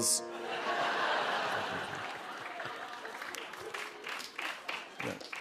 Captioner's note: laughter